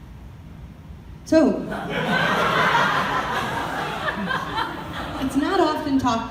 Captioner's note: audience laughter